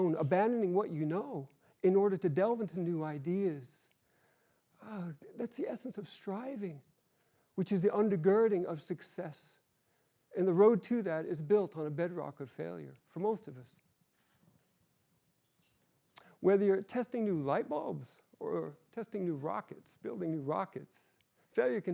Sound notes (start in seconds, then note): none